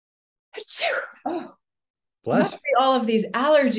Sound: sneezes

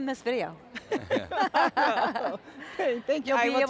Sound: laughter

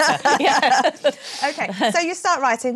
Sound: laughter

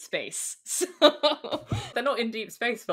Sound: laughs

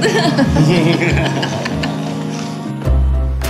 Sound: evil laughing from group; cheery music begins

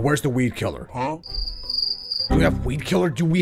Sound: crickets

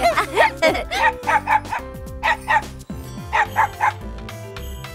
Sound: dogs barking

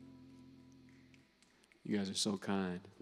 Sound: snapping

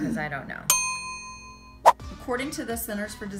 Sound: dinging

